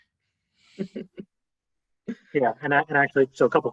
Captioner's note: laughing